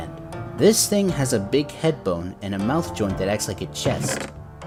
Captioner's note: Minecraft chest sound effect